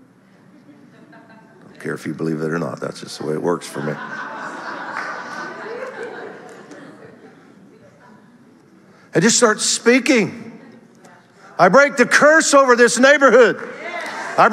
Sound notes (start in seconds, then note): 3.6 audience laughter